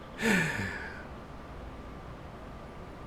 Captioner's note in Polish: wciągnięcie powietrza